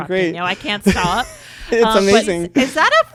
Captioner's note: laughs